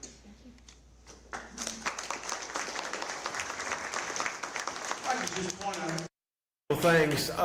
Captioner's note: applause